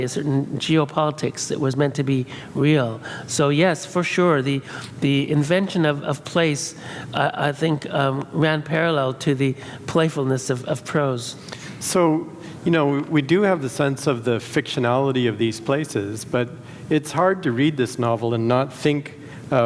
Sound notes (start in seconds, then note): none